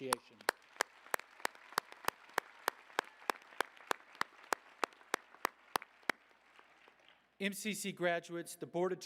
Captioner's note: applause